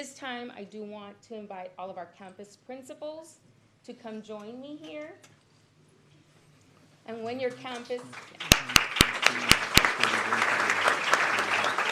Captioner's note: applause